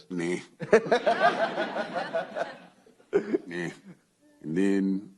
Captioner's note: laughter